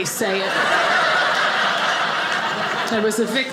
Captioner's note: audience laughing